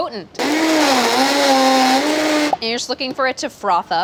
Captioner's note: blender grinds